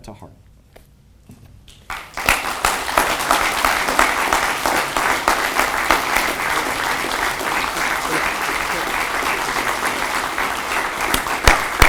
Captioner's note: audience applauds